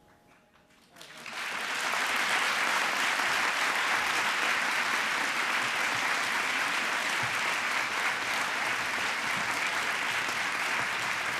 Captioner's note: applause